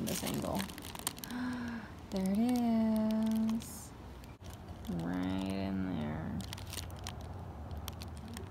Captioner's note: gasp